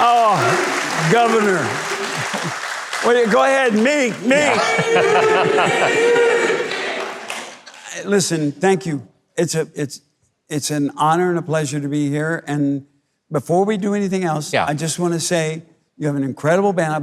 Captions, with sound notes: - Oh governor. Go ahead, Meat, Meat. - [Crowd] Meat, Meat! - Listen. Thank you. It's it's it's an honor and a pleasure to be here. And before we do anything else, I just want to say you have an incredible band,